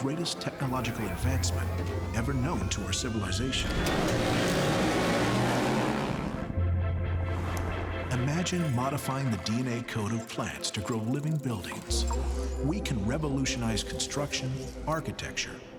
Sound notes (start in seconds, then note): 3.9 motors buzzing; 6.2 intense music